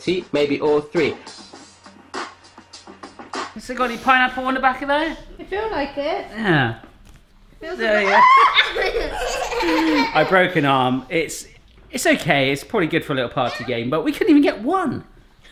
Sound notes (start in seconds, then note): 8.0 screaming